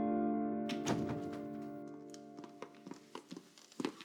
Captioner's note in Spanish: Ruido en la puerta